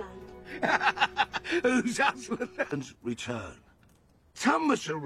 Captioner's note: laughs